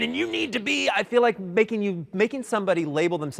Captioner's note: in normal voice